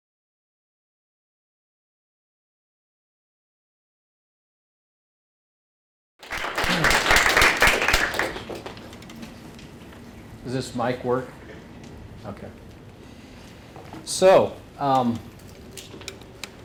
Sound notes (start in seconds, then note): 6.2 applause